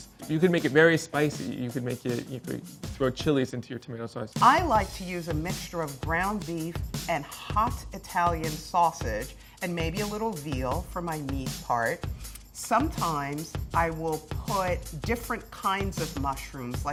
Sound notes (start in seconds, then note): none